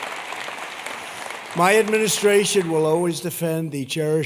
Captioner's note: applause